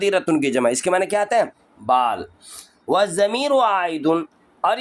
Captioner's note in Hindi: नाक से की जाने वाली आवाज़